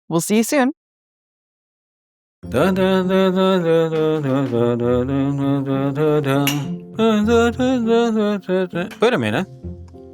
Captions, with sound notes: - We'll see you soon. (humming song) (humming continues) Wait a minute.